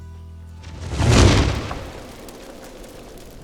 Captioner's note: bang